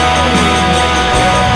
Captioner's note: cheering